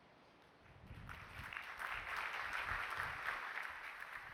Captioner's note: applause